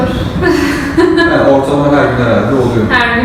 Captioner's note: laughs